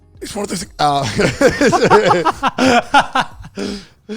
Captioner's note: laughing